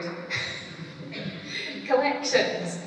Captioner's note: laughter